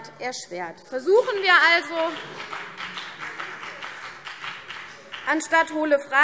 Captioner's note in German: Beifall BÜNDNIS 90/DIE GRÜNEN